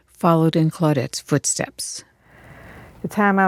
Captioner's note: soundbite of archived recording